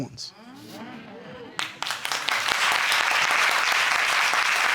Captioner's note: audience applauding